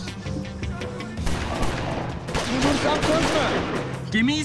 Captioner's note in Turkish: Silah sesleri